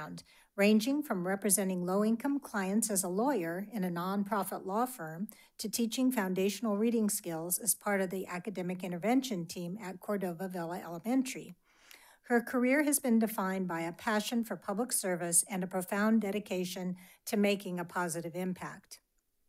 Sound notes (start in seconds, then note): none